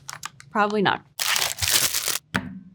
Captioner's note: plastic rustling; patty thudding